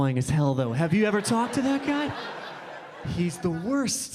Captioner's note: audience laughing